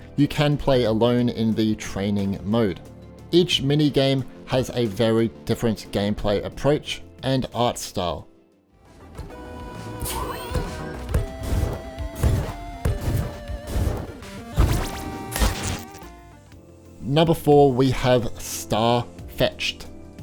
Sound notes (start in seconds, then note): 9.0 upbeat electronic music; 11.0 low thudding; 14.6 electronic chiming; 15.4 low zapping